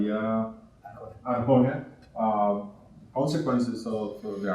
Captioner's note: speaking in Spanish